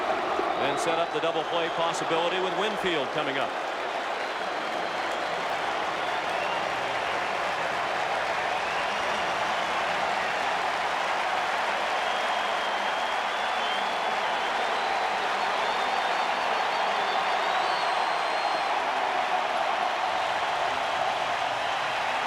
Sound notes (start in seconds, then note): 16.6 applause; 21.9 cheering and Applause